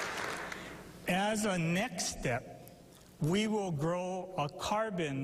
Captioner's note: applause